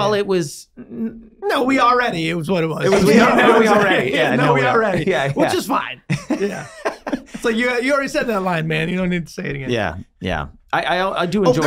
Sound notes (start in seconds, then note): 3.1 men chattering; 6.0 Glenn laughing